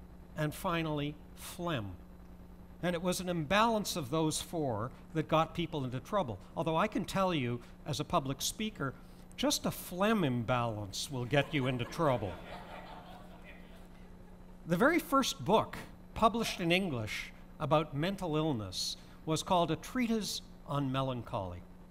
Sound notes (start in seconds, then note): 14.3 laughter